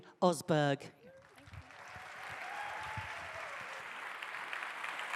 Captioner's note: audience applauding